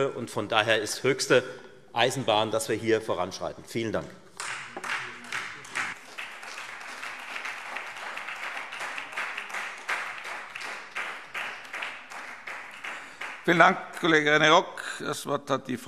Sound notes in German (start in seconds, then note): 4.4 Beifall Freie Demokraten und vereinzelt SPD